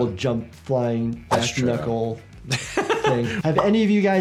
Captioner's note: laughs